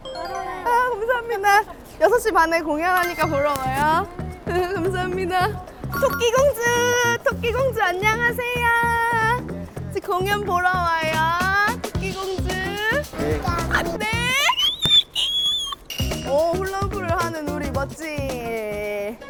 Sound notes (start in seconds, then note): 14.5 squealing from cuteness